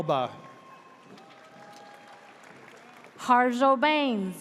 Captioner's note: audience cheers